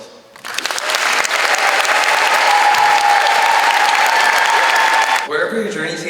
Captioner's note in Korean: 길게 쏟아지는 함성과 박수!